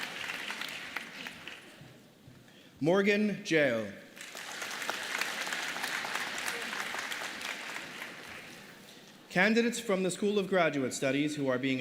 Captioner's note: applause